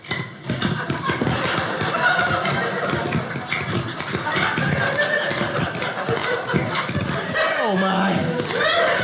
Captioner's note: audience laughing